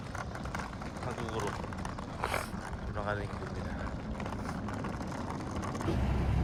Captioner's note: sniff